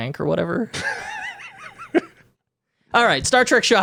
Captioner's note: laughing